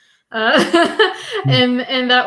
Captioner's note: laughs